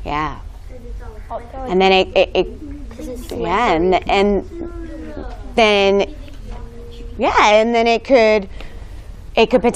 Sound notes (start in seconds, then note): 2.7 student chatter